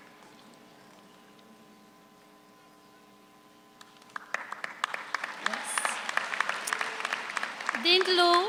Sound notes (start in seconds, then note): 3.8 audience applauds